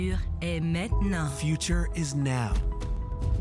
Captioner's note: voiceover; upbeat, fast music